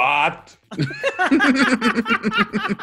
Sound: laugh

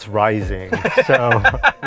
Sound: laughing

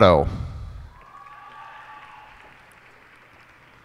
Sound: cheers and applause

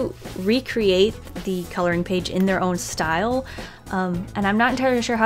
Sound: breath

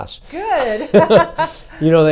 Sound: laughs

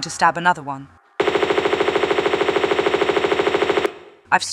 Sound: bratatatatatata

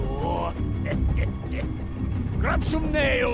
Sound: laughs

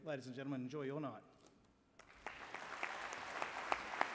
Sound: applause

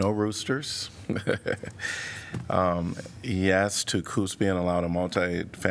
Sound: laughter

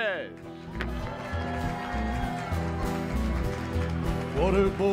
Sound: cheers and applause

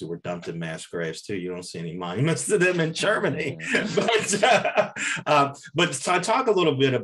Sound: laughs

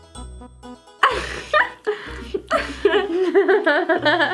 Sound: laughing

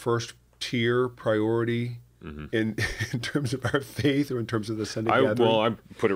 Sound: laughter

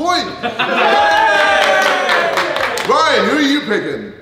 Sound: group cheering

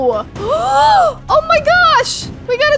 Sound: gasping

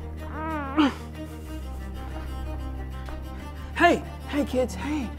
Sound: Jackson grunting

